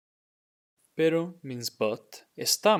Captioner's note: speaking in Spanish